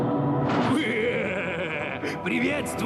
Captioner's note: chuckling